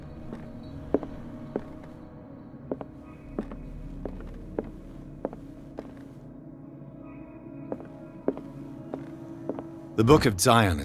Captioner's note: crisp footsteps